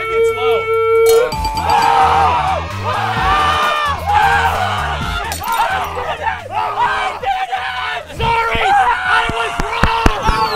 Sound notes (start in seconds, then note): 1.1 shatter; 2.8 screaming; 10.3 cheering